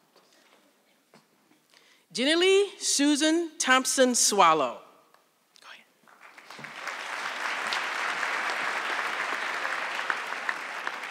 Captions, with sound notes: Jennylee Susannah Thompson Swallow. (audience clapping)